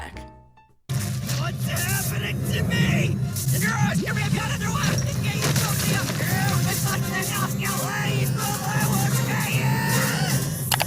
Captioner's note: speaking backwards